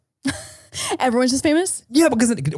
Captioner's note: laughing